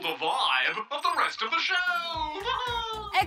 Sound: laughs

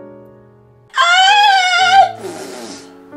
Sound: blows raspberry

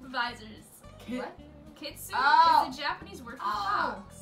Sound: laughs

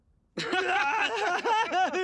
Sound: laughing

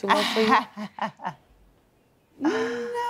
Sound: laughs

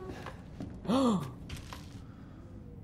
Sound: gasps

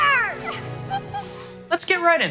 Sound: laughs

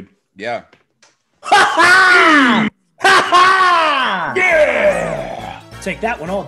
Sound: laugh

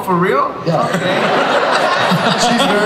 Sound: everybody laughs

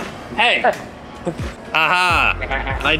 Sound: laughs

